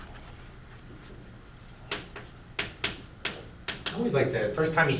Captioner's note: chalk clicking on board